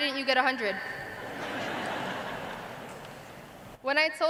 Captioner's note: laughter